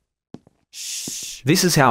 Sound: shush sound

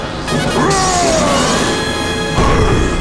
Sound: roaring

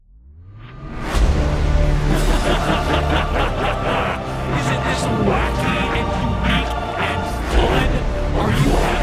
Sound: evil laughing

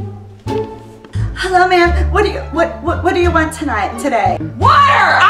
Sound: studdering

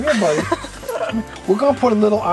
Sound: assistant laughs

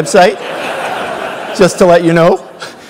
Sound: laugh

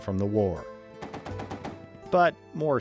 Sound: machine gun fire

